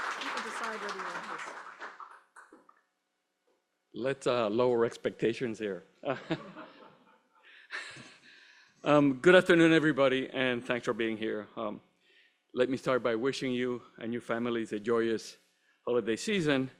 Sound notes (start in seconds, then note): 6.0 laughter